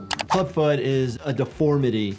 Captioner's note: mouse clicking